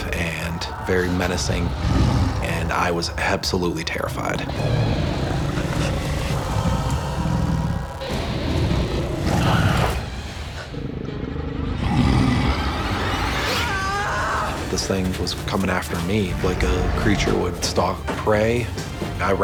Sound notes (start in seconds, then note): 7.0 growling; 13.9 screaming